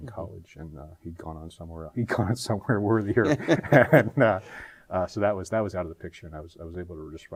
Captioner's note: both laugh